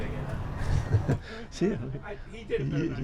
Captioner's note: laughs